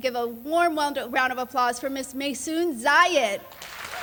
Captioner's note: applause